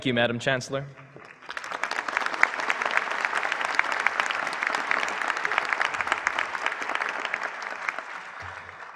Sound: applause

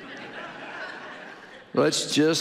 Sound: audience laughing

